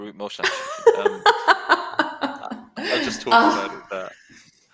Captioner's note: laughter